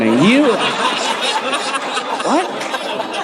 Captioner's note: audience laughing